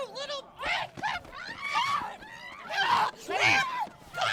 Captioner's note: Grace and Cathryn yelling